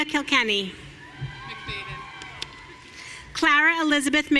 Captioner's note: audience cheering